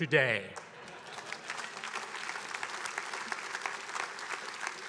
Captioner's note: attendees applauding